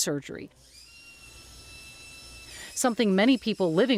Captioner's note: tools whirring